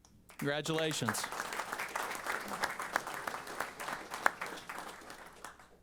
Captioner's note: applause